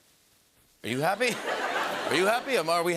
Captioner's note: laughter